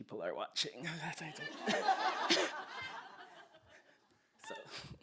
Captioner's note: laughter